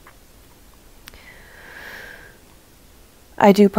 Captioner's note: deep breath